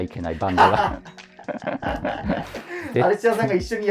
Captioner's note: laughing